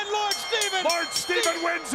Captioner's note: bell ringing